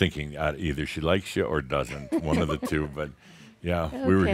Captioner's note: chuckles